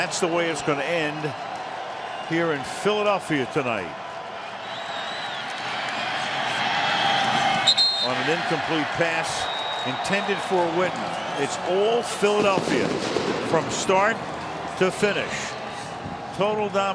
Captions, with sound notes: And that's the way it's going to end here in Philadelphia tonight-- [whistle] --on an incomplete pass intended for Witten. It's all Philadelphia from start to finish.